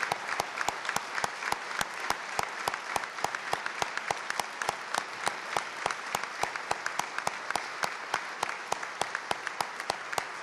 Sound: applause

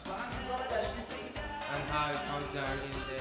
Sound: speaking in farsi

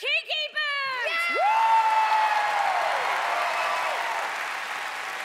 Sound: loud cheering

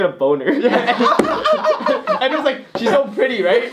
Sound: giggle

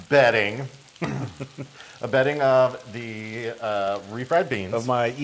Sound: laugh

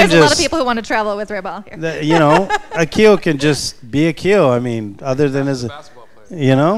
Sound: chuckles

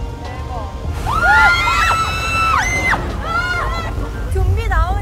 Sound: all screaming

